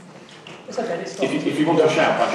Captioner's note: voiceover